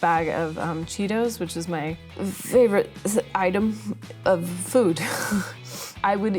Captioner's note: laughing